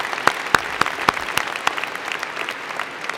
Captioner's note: applause